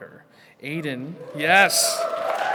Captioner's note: attendees hooting; attendees cheering